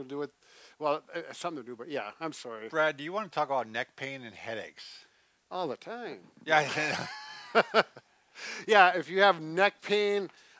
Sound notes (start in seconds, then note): 6.6 laughs